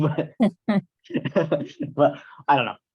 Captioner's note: laughter